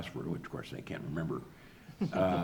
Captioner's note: audience laughs